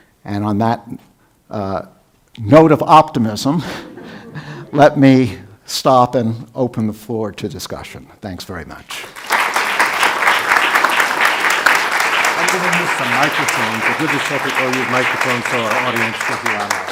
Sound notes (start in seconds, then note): 9.0 audience applause; 13.0 faintly speaking